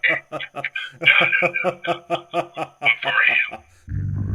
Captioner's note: laughter